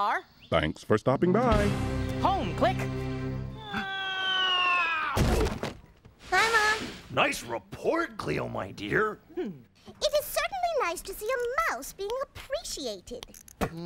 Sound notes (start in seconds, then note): 4.0 Cleo whistling through air; 5.1 thud